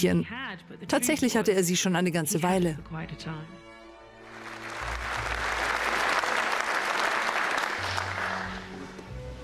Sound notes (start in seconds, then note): 4.2 applause